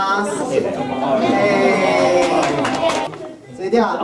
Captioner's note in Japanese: 歓声